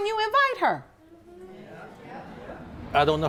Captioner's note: audience agreeing